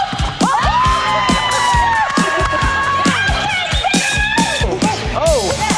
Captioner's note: cheering